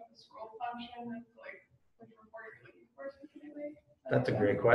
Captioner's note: speaking off mic